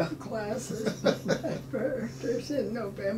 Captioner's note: laughs